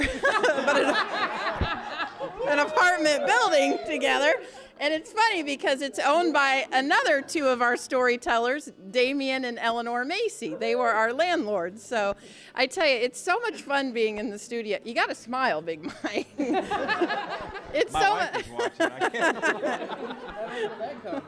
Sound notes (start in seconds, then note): 0.0 �laughing�; 15.8 �laughing�